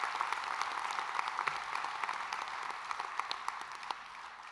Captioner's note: applause